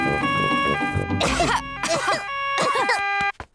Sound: all cough

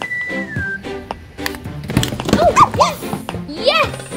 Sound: dog barking

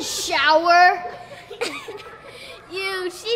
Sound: children laughing

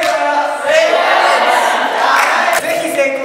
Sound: cheering

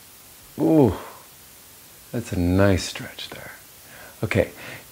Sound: groan

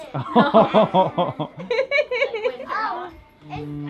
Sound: laughing

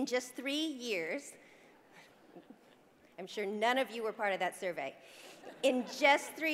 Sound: laugh

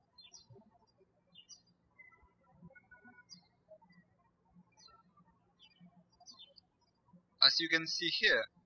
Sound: birds chirping

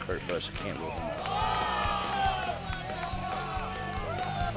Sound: shouting

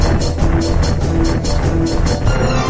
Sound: clomp

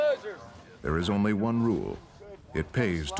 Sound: voiceover

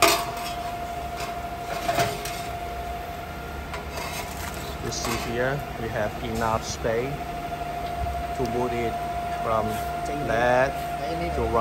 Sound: air pump noisy

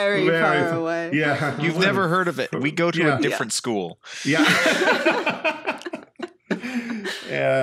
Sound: laughing

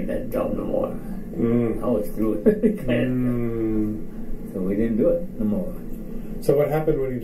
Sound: chuckles

